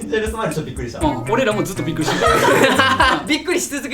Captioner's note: laughs